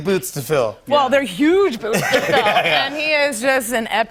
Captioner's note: laughs